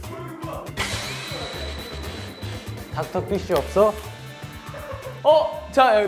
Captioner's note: sweeping